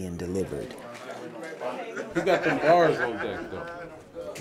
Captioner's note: people chattering among each other